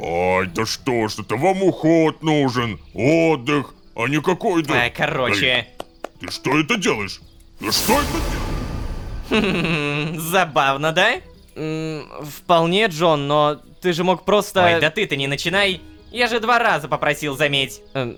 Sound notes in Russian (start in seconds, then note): 5.7 хлопает в ладоши; 7.6 Звук пустотной телепортации